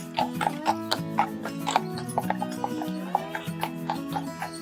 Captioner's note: horse shoes clopping